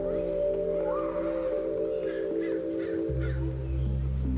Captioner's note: gentle music; children chattering